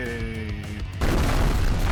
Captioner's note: explosion